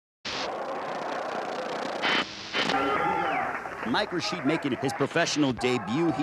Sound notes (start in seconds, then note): 0.2 static hissing